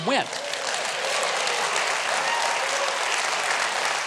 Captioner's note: applause